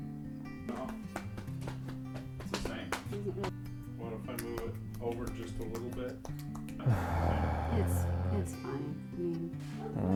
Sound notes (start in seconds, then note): 6.8 heavy sigh